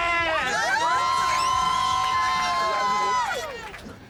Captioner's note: group cheering